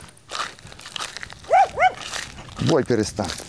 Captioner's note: the dog barked